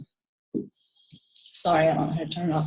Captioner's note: phone beeps